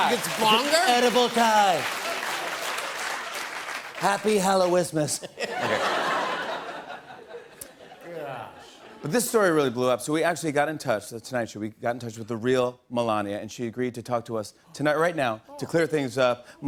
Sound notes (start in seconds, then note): 5.1 laughter